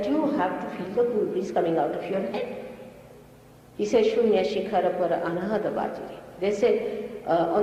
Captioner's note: mother quotes in another language